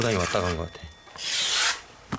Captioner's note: the sound of ripping off the five-coloured cloth